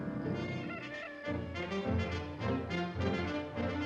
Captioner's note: upbeat dramatic music; rooster crows; upbeat dramatic music